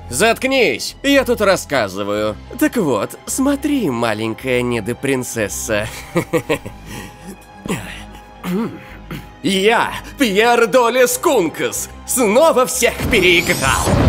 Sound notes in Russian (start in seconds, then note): 5.8 злой смех; 7.6 вздох при прыжке